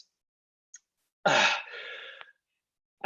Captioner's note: gasps; inhales deeply